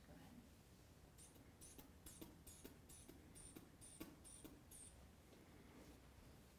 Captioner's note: squeezing inflation bulb